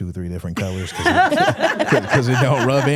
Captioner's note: hosts laughing